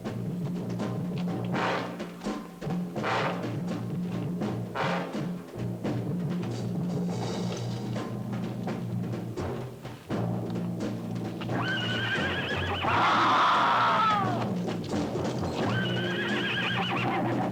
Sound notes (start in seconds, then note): 11.2 horse whinnies; 12.8 man screams; 15.3 horse continues whinnying